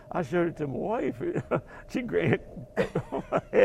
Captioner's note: laugh